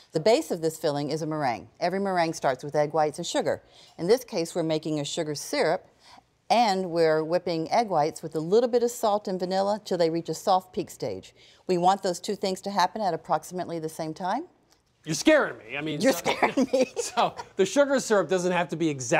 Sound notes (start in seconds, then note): 16.0 laughs